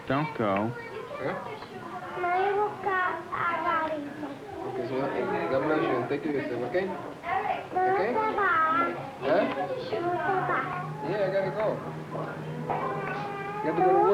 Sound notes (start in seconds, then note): 1.1 Spanish speaking; 8.4 Spanish speaking